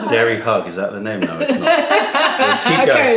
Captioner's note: laughter